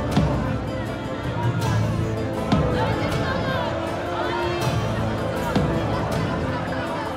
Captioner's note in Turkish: Kalabalık bağrışma sesleri